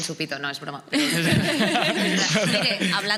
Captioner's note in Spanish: algunos ríen